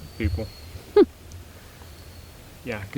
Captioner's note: chuckles